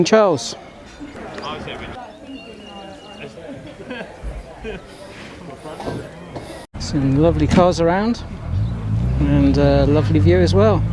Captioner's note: distance sound of cars